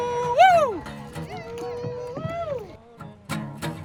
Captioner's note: canoe paddlers yelling; soft guitar music